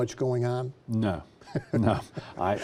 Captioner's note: laughs